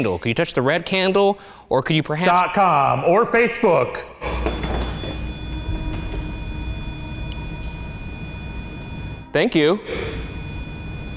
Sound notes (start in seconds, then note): 4.2 REM-POD beeps